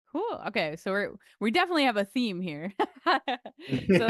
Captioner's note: laughter